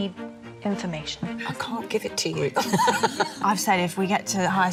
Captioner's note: laughing